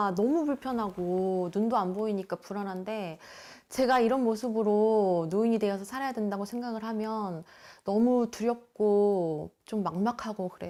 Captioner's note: voiceover